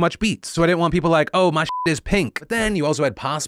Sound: beep

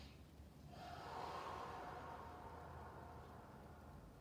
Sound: exhales

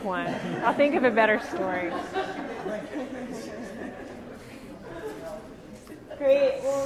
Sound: audience continues laughing

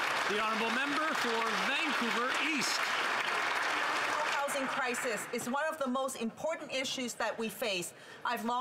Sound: some Applause

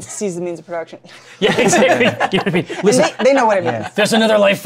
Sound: laughs

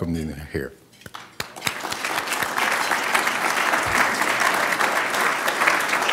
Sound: applause

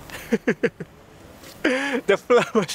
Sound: laughs

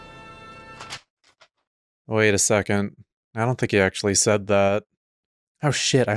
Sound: paper ruffling noises

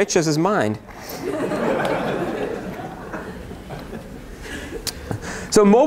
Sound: laughter

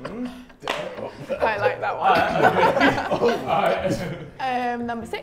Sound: laughs

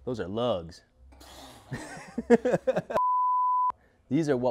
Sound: laughing

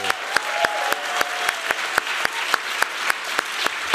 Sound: applause

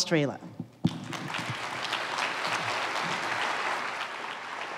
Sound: applause

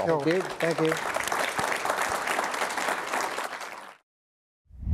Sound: applause

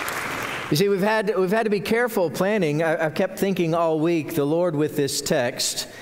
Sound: applause

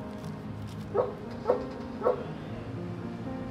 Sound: dog barks

